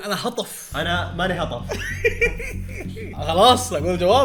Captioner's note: laughs